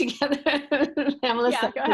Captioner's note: laughing